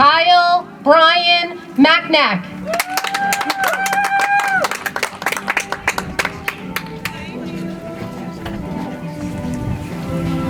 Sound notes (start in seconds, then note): 2.6 audience applauds; 7.9 soft music